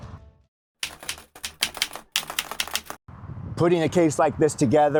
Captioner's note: keyboard keys clicking